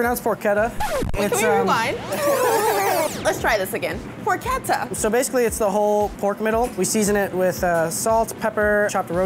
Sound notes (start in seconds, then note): 0.7 tape scratch; 0.8 rewind sound